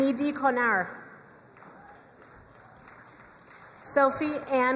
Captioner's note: crowd cheering and applauding